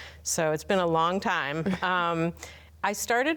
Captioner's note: laughs